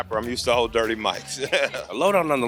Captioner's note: laughs